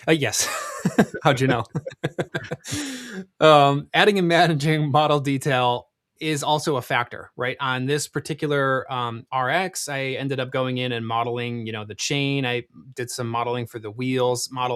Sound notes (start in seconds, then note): 0.4 laughs; 2.1 both laughing